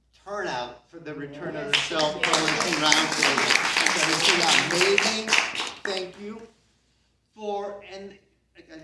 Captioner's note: CROWD applauds